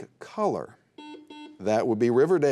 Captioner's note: buzzer beeping